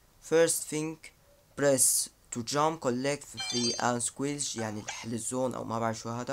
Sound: explaining in Arabic

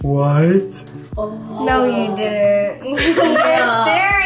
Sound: group exclaims; laughing

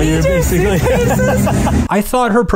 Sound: laughs

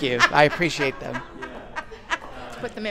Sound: laughing

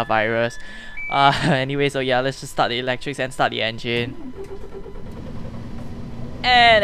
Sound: nervous laughs

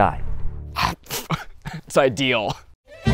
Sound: laughs

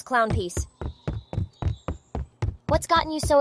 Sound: foot steps

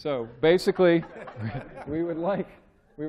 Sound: laughter

